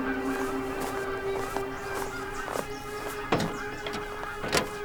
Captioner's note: footsteps crunching